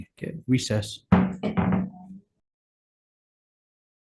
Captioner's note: gavel thuds